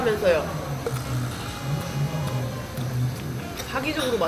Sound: nom nom nom

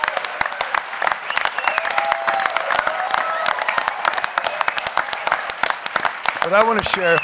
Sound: applause

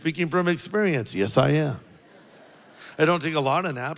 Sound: congregation laughs

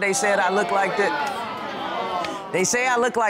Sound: audience exclaims

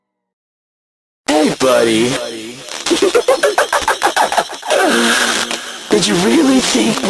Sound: giggles

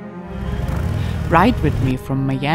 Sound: engine roaring

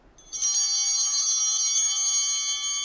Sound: bell ringing

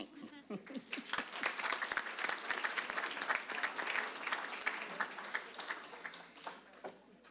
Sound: applause

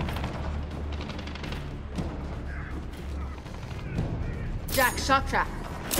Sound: gunfire

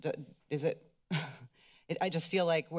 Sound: giggles

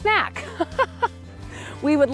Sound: laughing

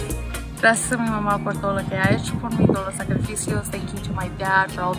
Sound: speaks in foreign language

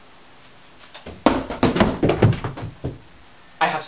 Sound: balls thudding

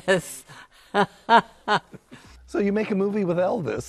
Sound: laughing

